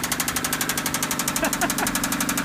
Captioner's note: engine continues rattling; laughs